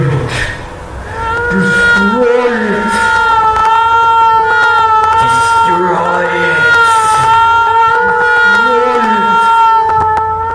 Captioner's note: distorted; wailing heard over the voice